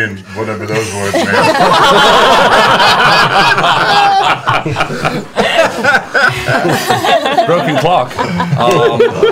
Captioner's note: laughter